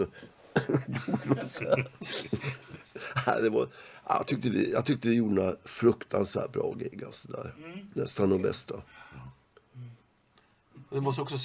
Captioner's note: laugh